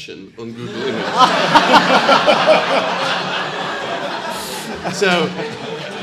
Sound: audience laughing drowns out speaker

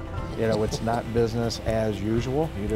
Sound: laughs

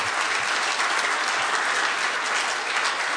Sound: applause

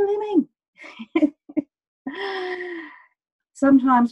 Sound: laughing

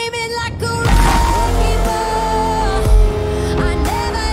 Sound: distorted screaming

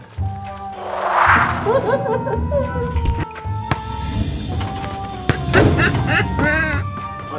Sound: laughing

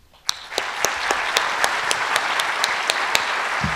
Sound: audience applauds

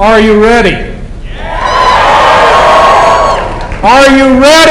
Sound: cheering

